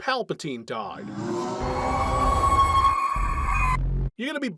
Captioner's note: monster noises